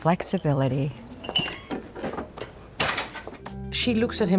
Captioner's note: items rustling